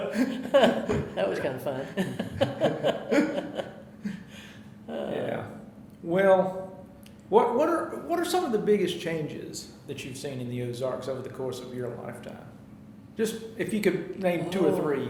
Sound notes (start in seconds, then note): 1.9 laughing